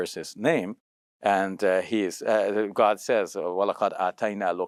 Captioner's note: foreign language